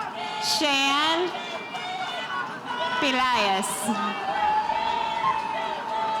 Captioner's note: spectators cheering